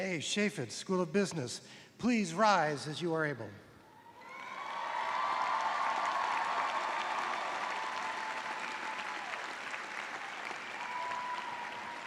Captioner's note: cheers and applause